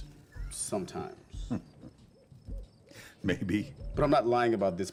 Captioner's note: chuckles